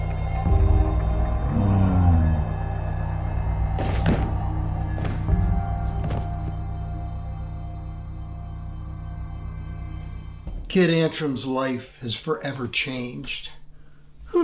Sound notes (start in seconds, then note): 1.4 person continues groaning; 3.6 body thuds; 4.2 warbled suspenseful music